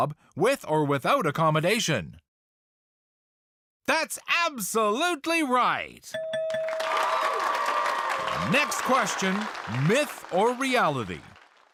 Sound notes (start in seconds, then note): 6.1 bell dings; 6.6 audience cheers